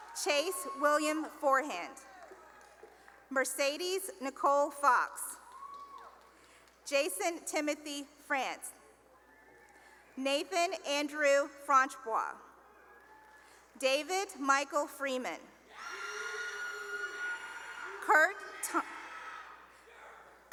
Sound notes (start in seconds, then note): 0.0 cheering and applause; 5.3 cheering and applause; 9.1 cheering; 12.6 cheering; 18.3 cheering